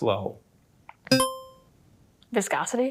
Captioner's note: buzzer chimes